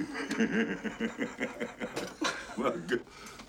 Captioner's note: goody laughing heartily